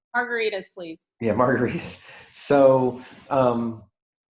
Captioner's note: laughs